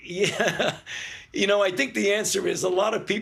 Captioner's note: laughs